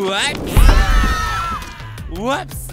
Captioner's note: screaming